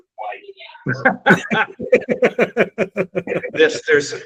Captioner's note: both laughing